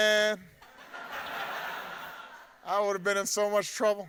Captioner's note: audience laughing